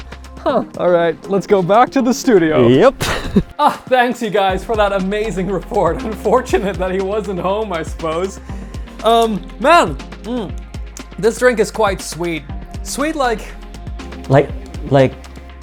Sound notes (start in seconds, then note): 2.9 chuckles; 5.5 chuckles